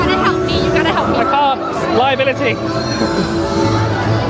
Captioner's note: chuckles